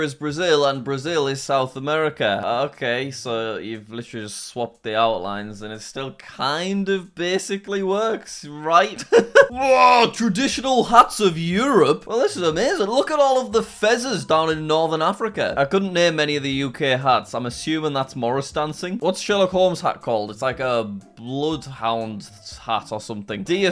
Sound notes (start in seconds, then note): 9.0 laughing